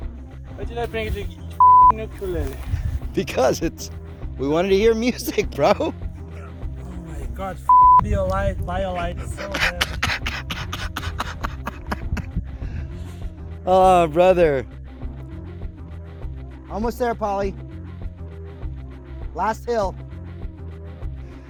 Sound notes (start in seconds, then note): 10.1 laughing